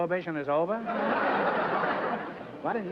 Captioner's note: laughter